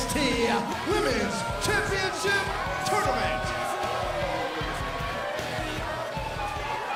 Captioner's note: crowd cheering